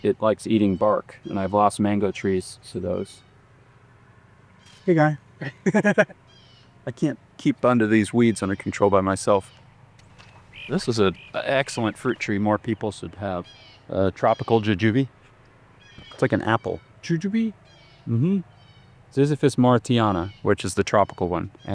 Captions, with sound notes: it likes eating bark and I've lost mango trees to those. Hey guy. (laughing) I can't keep under these weeds under control by myself. This is an excellent fruit tree. More people should have tropical jujube. It's like an apple. Jujube? Mm-hmm. Ziziphus mauritiana, which is the tropical one.